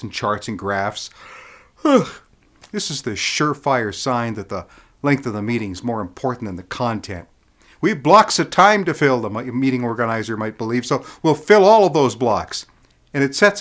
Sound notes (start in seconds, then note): 1.4 yawn